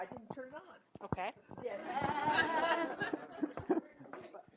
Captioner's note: audience laugh